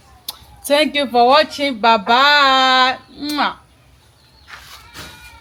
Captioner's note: kisses